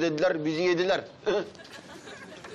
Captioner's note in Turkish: Gülme sesi